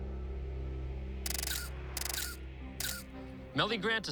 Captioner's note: <i> camera shutter clicking</i>